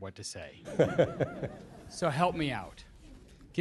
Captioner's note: laughter